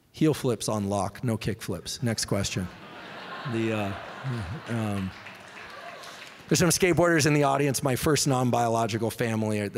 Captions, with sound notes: Heel flips on lock. No kick flips. Next question. [audience laughing] [scattered applause] There's some skateboarders in the audience; my first non-biologic family.